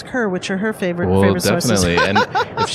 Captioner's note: laughs